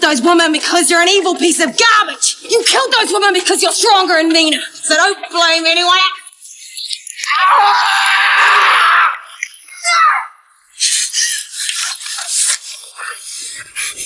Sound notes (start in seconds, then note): 7.2 Graham screams; 9.8 Jodie yells